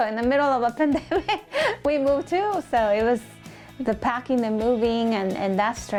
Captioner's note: laughs